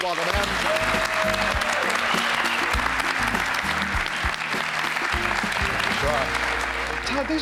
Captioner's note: applause, cheers